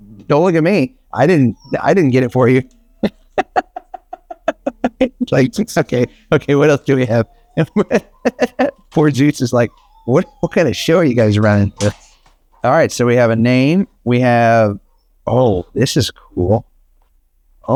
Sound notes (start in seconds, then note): 0.0 toy squeaks; 3.8 laughs; 8.3 laughs